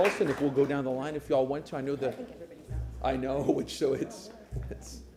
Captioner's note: applause